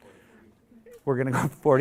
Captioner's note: audience mumbles